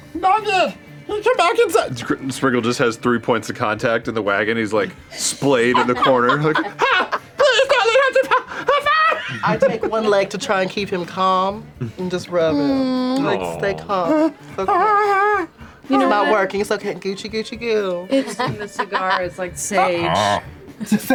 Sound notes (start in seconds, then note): 14.5 whimpers; 19.8 chokes